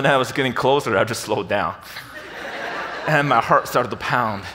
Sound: audience laughs

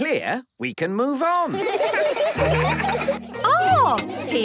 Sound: laughter

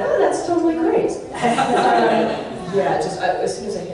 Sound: audience laughs

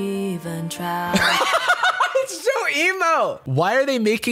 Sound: hysterical laughter

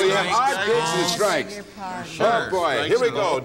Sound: chatter

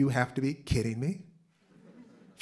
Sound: laughter

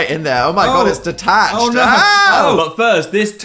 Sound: screaming

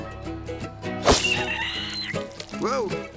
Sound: screeches

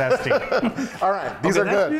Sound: laughing

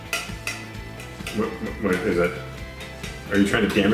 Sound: clinking

